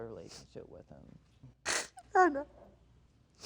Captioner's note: sniffles